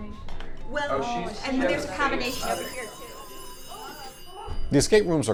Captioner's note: phone ringing